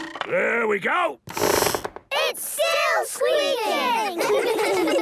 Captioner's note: squeaks